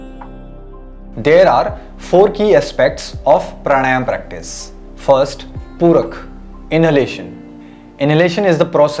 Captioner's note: inhalation